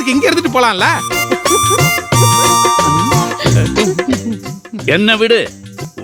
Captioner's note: Grandma laughs, while Bhaskar and Grandpa perplexed